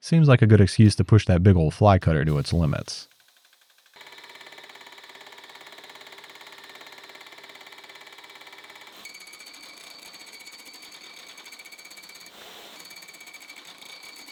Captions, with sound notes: Seems like a good excuse to push that big old fly cutter to its limits. (machine whirring and rattling)